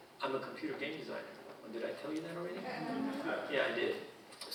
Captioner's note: audience chuckling